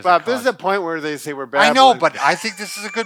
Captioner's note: laughs